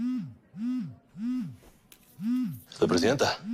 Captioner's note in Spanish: Vibra el celular